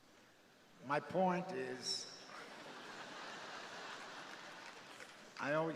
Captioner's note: crowd laughing